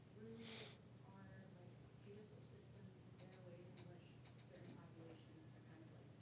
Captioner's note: participant speaking faintly